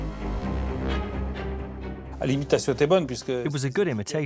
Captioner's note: non-english speech